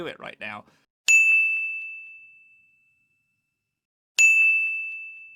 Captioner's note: ding